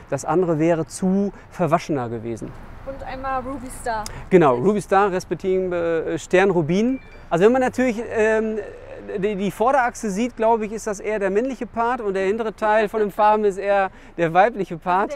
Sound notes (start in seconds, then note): 6.2 in German